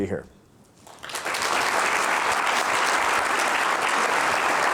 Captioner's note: applause